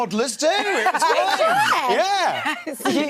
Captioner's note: laughing